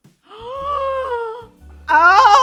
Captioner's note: gasping